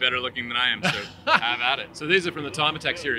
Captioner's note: laughing